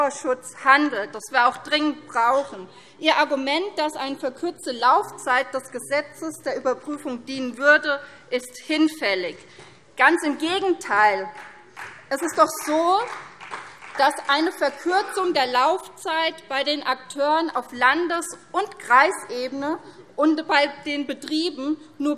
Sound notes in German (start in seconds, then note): 9.6 Vereinzelter Beifall CDU